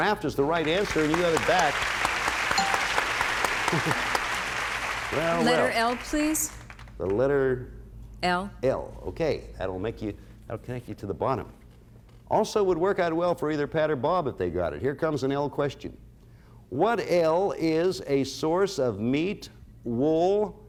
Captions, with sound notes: -Raft is the right answer, you got it back. -(applause) -(bell rings) Well, well. -Letter L please. -The letter... -L. -L, okay. That'll make you... It'll connect you to the bottom. Also would work out well for either Pat or Bob if they got it. Here comes an L question. What L is a source of meat, wool...